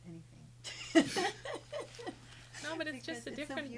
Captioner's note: group laughing